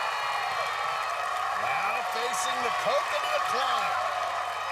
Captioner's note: cheers and applause